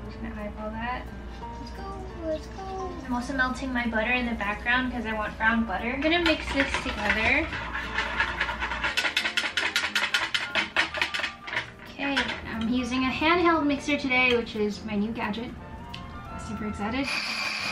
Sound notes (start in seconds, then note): 7.7 whisk rattles; 17.0 whirring